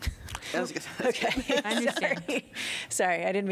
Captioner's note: laughter